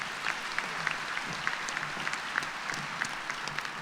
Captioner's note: applause